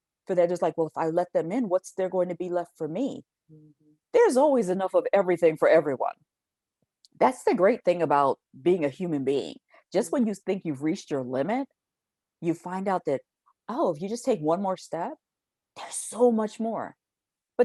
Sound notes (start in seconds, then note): none